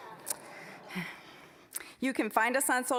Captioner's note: scattered chuckling